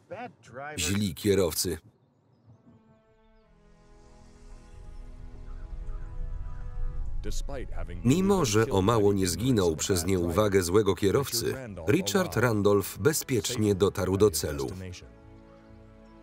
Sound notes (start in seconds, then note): 2.5 victorious music; 7.3 voiceover